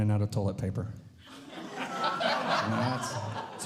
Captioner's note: audience Laughing